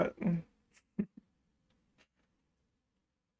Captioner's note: chuckle